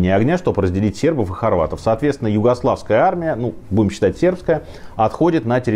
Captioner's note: Serbian